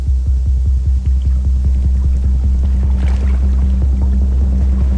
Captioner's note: ship engine whirring